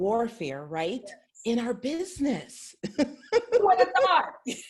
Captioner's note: laughs